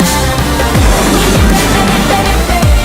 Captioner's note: explosion